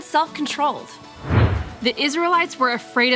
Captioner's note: whooshing